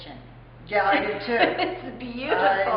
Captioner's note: laughter